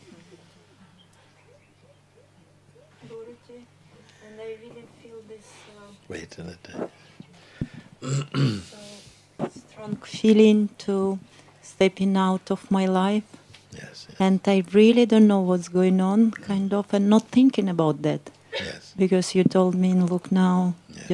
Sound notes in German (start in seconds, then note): 2.0 Lachen; 4.8 spricht leise